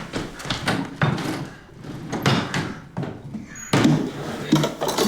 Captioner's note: cabinets clattering